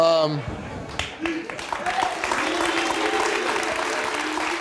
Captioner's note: audience clapping